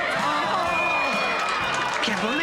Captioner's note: microphone feedback